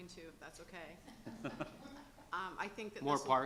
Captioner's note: laughing